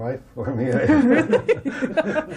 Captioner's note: laughter